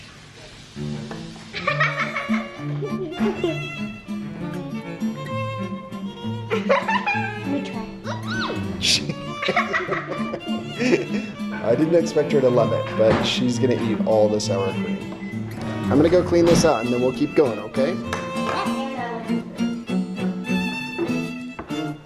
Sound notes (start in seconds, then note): 0.1 oil sizzling; 1.5 girl laughing; 2.9 gentle music; 6.5 laughing; 8.6 laughs; 9.7 girl laughs; 15.5 gentle music; 19.3 gentle music